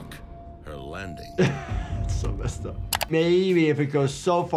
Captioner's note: laughs